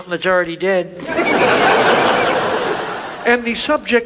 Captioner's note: audience laughs